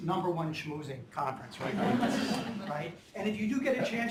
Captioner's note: laughter